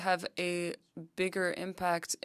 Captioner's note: speaking French